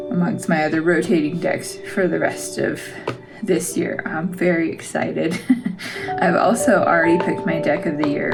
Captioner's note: laugh